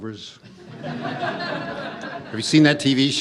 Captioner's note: audience laughs